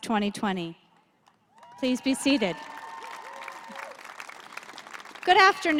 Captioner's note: applause